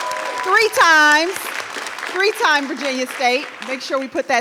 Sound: applause

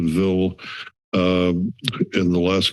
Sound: inhales

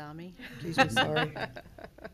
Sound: laughing

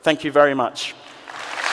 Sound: applause

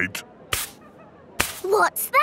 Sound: brushing

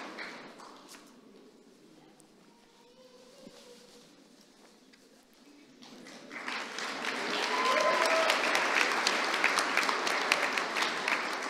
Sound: applause

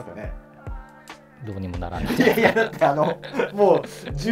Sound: laughing

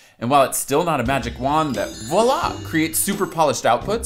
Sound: bells chime

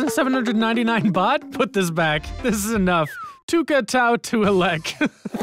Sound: laughs

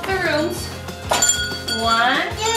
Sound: bell ringing

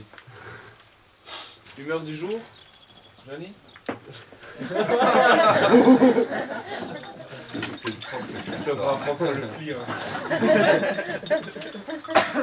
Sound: laugh

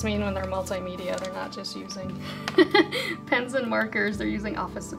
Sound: laughs

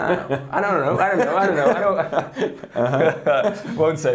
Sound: speaker laughing

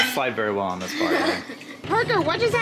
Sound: laughs

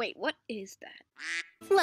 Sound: quack

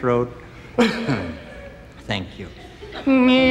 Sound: clears throat

